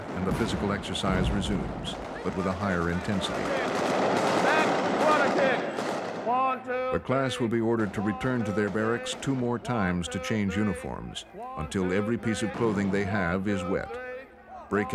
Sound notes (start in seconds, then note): 4.9 yelling and guns firing